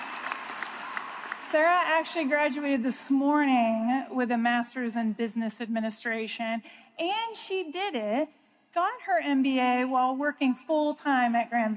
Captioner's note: applause